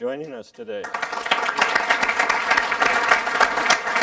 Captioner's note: applause